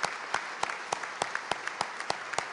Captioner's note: applause